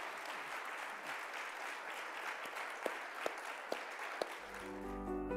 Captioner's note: audience applauding; thoughtful music